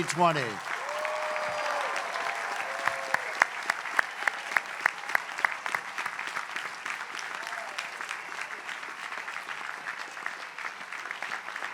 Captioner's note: applause